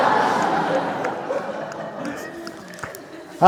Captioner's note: laughter